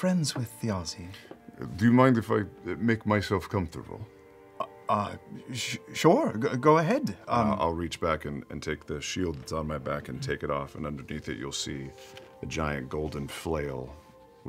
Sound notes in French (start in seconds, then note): none